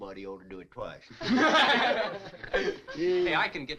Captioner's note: all chuckling